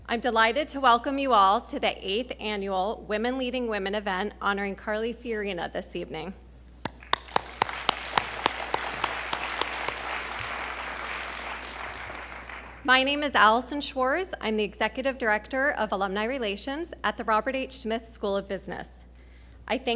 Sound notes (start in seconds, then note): 6.8 applauding